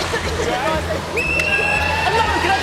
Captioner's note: alarm blares